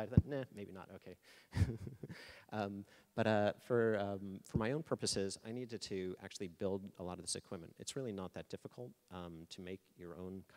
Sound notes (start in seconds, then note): 1.5 laughing